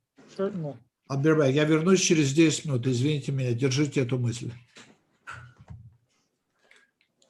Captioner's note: translator speaking Russian language